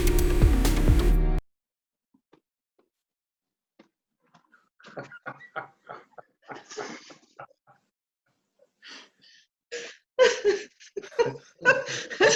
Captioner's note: laughter